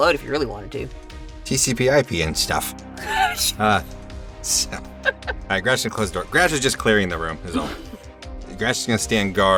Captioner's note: chuckles